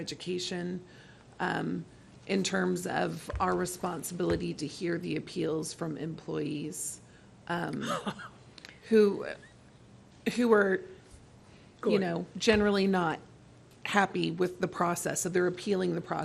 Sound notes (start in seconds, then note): 7.8 laughter